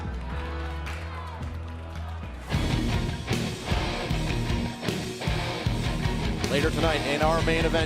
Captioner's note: crowd chatter